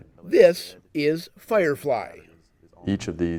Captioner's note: voiceover